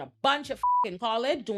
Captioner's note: beep